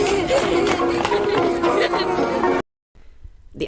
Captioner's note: children laughing